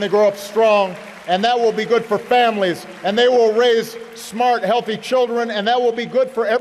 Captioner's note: applause